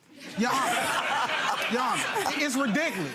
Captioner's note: audience laughs